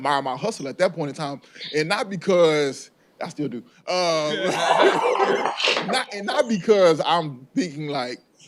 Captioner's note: aside I still do - laughter